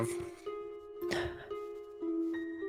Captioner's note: gasps